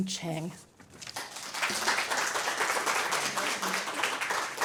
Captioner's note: applause